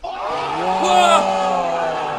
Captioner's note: audience cheering